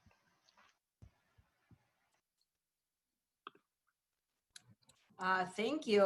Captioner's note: silence